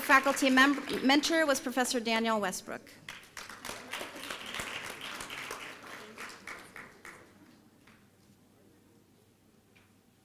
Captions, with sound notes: Her faculty mentor was Professor Danielle Westbrook. (applause)